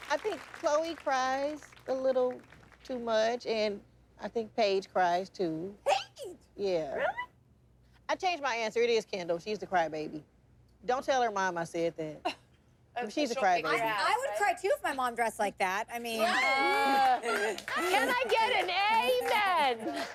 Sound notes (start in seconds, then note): 16.2 laughs